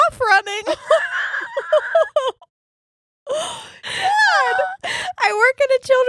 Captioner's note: laughing